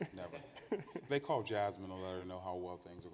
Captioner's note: participants laugh